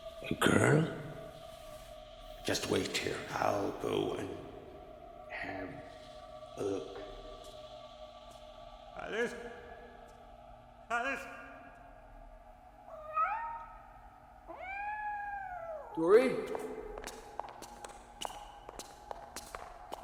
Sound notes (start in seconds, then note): 12.9 Moon meowing; 16.4 footsteps tapping